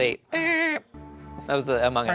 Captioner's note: imitates Among Us noise